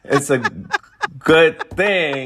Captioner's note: laughter